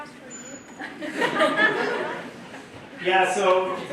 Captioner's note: laughter